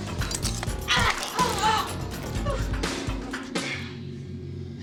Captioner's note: upbeat music; woman groans; kicks thudding